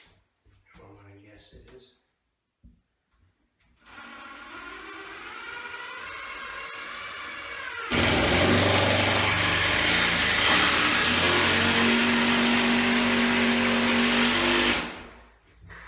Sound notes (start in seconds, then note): 3.8 drilling